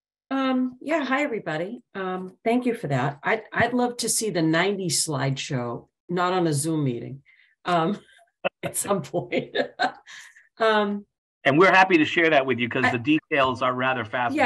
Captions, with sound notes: >> Yeah. Hi everybody. Thank you for that. I'd love to see the 90 slideshow. I'm not on a Zoom meeting at some point [LAUGH]. >> And we're happy to share that with you cuz the details are rather.